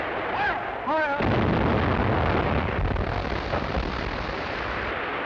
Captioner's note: cannon firing